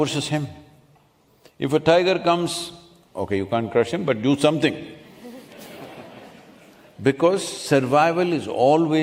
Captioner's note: few laugh